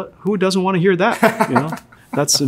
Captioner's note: laughs